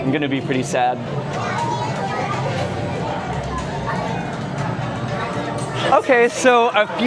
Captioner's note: crowd mururing